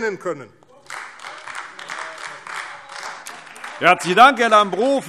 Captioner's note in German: Beifall AfD